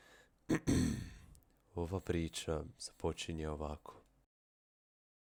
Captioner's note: ahem